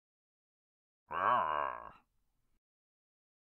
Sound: Frankenstein groan

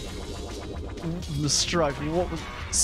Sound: stutters

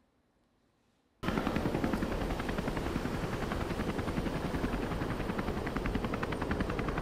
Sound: helicopter whirring

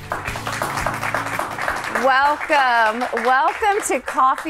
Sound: audience clapping

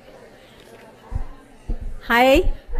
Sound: audience chattering

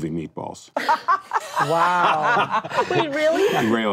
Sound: laughing

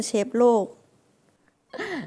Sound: laughing

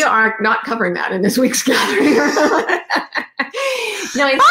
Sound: laughs

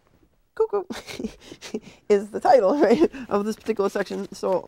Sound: chuckling

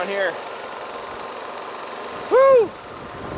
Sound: machine engine revs; sighs

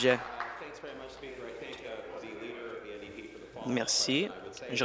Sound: applause

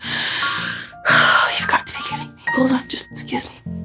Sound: sighing

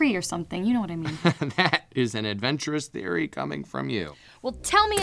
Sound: scoffing

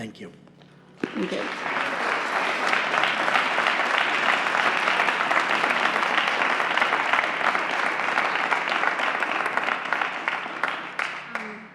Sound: applause

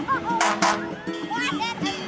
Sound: fire engine horn blaring; child laughing

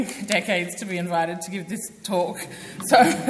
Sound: laughs; audience laughs

